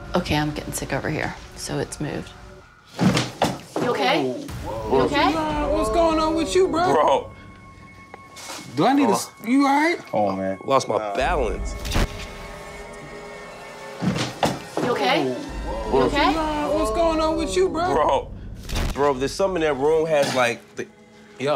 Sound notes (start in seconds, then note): 2.9 thudding; 11.5 eerie music